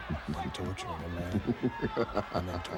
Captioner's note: Ted chuckling